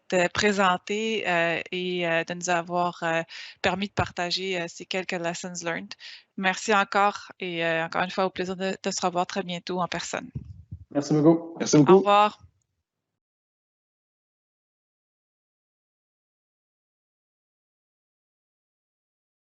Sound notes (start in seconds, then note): 11.1 all speaking in foreign language